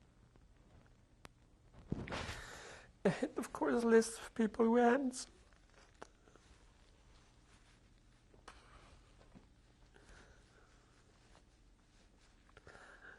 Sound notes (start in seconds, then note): 3.0 sobbing